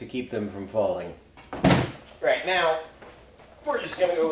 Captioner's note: clunk